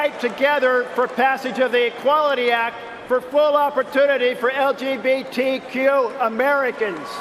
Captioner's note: cheering and applause